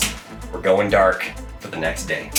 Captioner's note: switches clicking